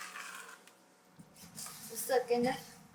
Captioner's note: stirring mixture